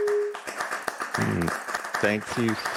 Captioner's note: applause